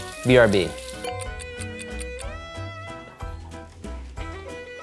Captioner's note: timer ticking